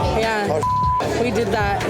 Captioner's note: beep